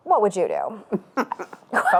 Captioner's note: laughs